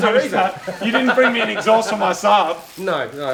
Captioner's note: laughs